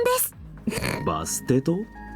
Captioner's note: snickers